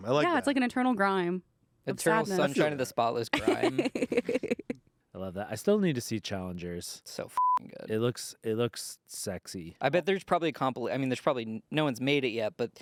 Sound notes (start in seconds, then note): 3.4 laughs; 7.3 beep